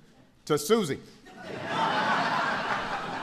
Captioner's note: laughter